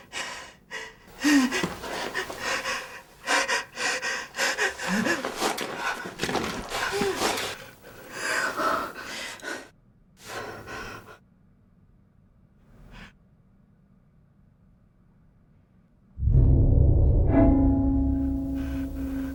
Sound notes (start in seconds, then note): 1.3 nervous breathing; 16.2 suspenseful music